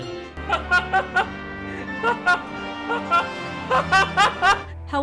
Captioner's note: laughing hysterically